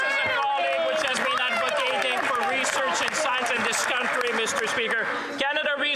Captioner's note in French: voix de l'interprète